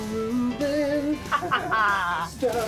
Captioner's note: laughter